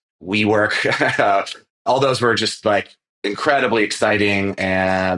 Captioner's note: laughs